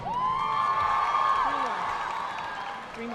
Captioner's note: audience cheering and applauding